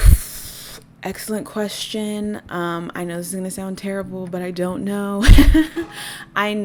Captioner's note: laugh